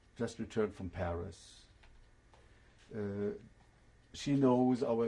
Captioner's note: pauses for 3 seconds